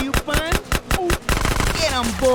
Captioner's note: shots